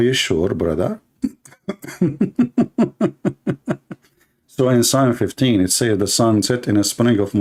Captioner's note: Ketawa